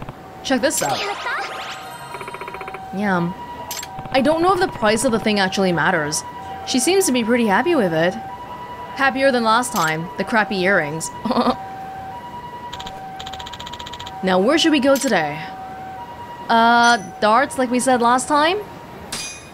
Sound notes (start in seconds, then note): 11.2 chuckles